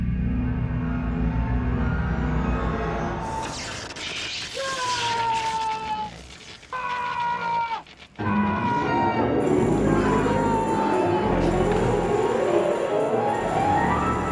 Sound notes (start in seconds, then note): 5.0 crackling; 7.4 screaming; 10.2 tense eerie music